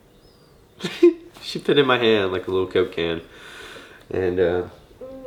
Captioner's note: laughs